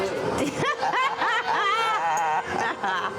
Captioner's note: laughter